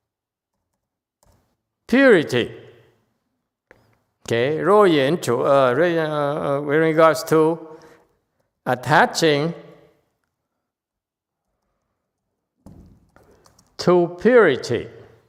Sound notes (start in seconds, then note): none